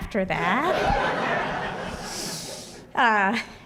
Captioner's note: laughter